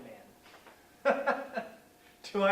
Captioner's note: sardonic laughter